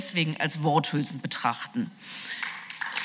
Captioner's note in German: Beifall